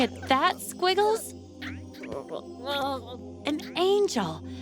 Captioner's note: caterpillar noises